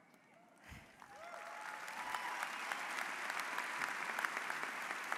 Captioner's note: audience applauds